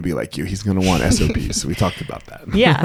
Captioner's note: laughs